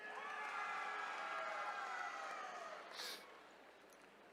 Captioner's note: attendees cheering